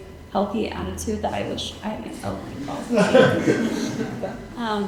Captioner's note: audience chuckling